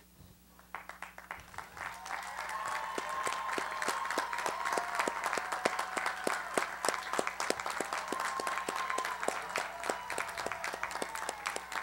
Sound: applause

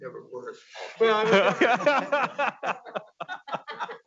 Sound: indistinct laughing

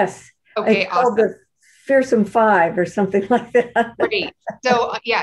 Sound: laughs

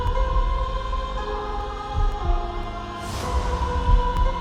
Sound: heart thumping

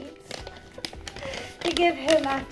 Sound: laughing

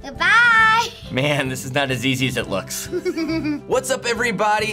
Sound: giggles

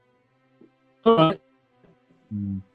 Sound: distortion

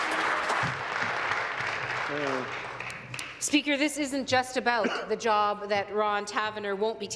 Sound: applause

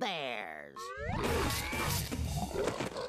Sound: growling

